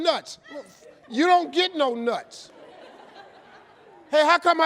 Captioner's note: audience laughing